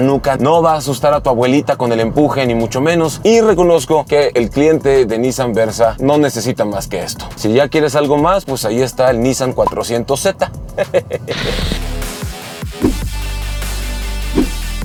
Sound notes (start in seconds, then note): 10.6 laugh